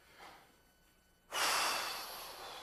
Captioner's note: exhaling; helium hissing from hose; inhales; helium hissing again